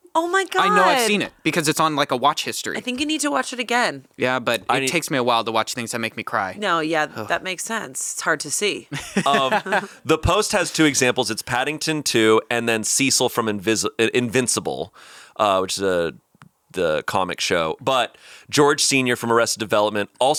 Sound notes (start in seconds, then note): 8.9 laughing